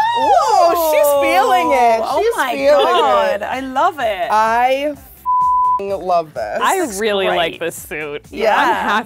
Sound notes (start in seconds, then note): 5.2 beep